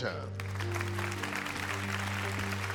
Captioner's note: audience applauding